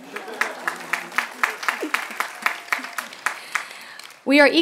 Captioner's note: applause